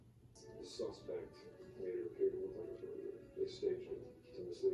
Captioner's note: tv noise